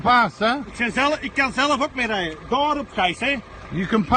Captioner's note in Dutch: Gesprek in het Nederlands / Engels